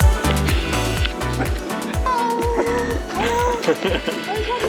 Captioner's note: dog barking